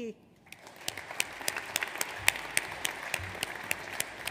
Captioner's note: audience applauds